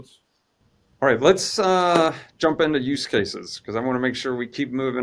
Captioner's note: claps